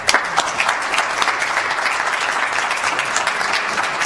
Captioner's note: applause